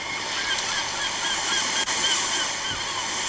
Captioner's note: movie: waves sound and screeching seagulls